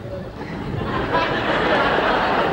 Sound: laughter

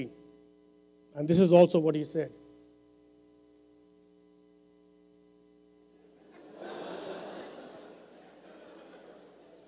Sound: laughter

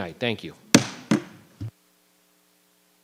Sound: gravel bangs

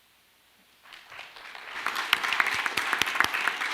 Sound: clapping

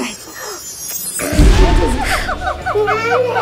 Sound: audio booms; audio laughing; babbling

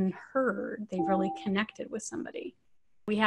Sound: chime tone

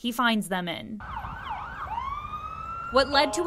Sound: siren blaring

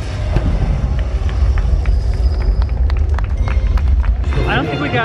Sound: audience clapping

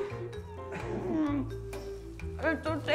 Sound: regretful whine

